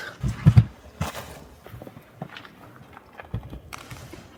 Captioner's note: rocks rattling